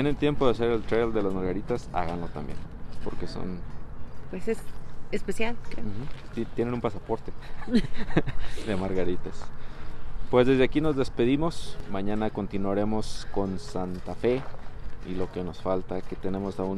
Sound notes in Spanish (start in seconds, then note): 7.4 risas